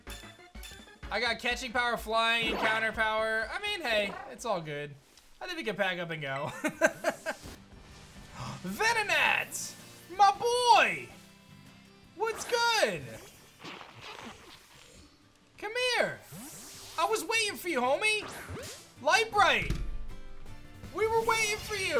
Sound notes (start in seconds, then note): 6.4 laughs; 7.6 gasps